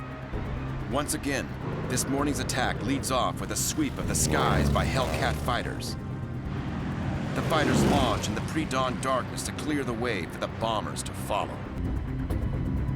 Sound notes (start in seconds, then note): 5.2 engine roaring